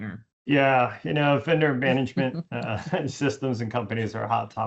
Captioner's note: laughs